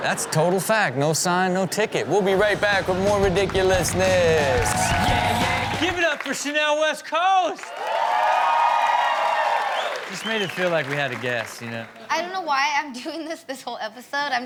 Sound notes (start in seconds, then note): 4.6 audience cheers; 5.5 hard rock music; 7.7 audience cheers and claps